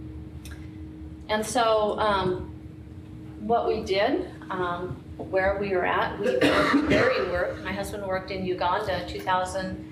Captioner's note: audience member coughing